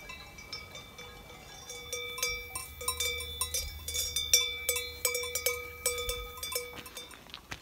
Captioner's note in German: Eine einzelne Kuhglocke läutet lauter in der Nähe